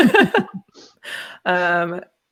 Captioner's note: laughs